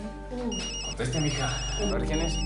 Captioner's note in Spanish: Suena el celular